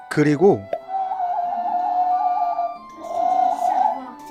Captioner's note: whistling